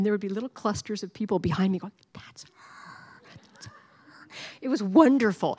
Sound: whispering

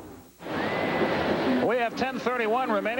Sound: ambient stadium noise

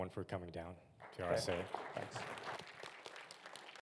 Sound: audience applauding

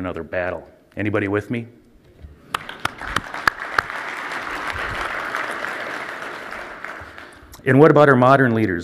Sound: applause

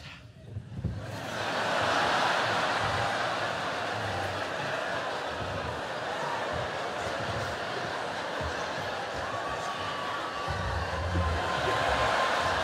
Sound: laughter and cheering

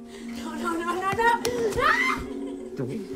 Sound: screams

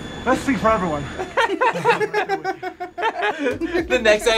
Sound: both laugh

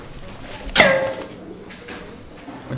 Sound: clonk!

